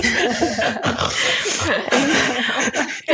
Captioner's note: laughter; Driftwood snores